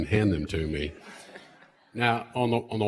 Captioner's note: laughter